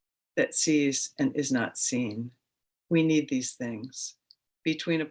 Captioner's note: none